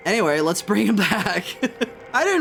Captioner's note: laughs